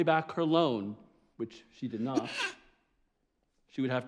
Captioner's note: sneezes